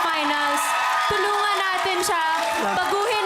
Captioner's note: applause, cheering